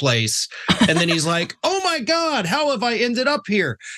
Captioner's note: laugh